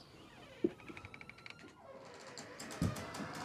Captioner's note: door creaking